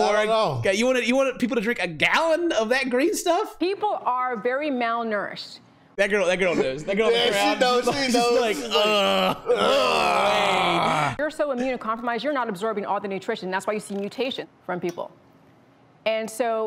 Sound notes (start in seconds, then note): 7.1 noises of obvious disgust